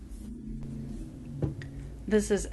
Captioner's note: thump!